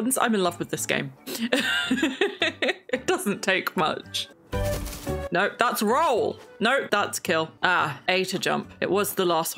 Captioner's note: laughs